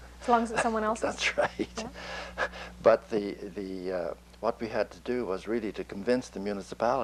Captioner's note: laughs